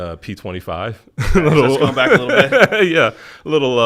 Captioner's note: laughs